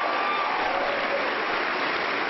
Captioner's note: applause